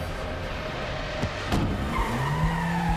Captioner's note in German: reifen quietschen